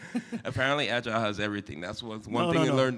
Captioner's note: chuckle